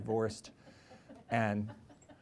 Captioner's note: laughter